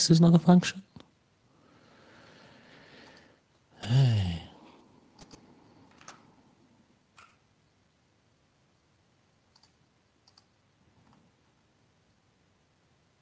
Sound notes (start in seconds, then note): 3.7 sighs